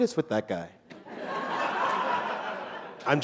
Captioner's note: laughter